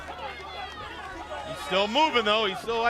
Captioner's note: crowd chatter